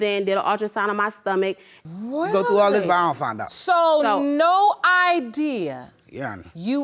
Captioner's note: dramatically